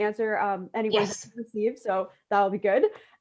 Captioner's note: laughing